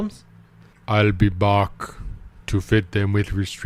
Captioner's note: Schwarzenegger accent